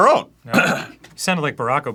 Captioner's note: clears throat